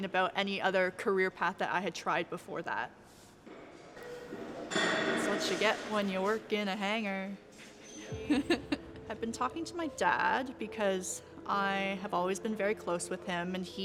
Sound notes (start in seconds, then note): 4.3 clanging; 5.3 sing-song